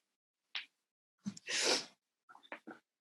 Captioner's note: sniffs